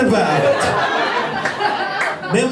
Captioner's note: laughter